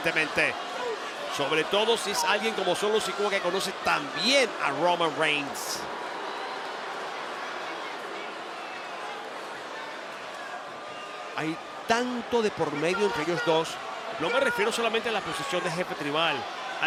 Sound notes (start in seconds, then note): 4.6 applause